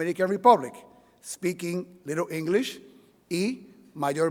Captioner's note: speaking in Spanish